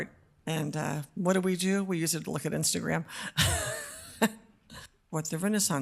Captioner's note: laughs